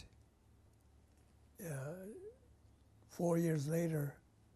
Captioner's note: pauses for 3 seconds